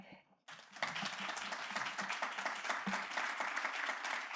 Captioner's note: audience clapping